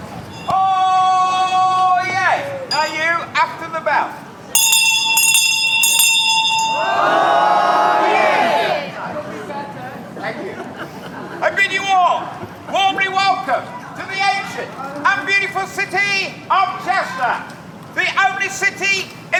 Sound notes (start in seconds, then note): 8.2 bell rings; 10.3 crowd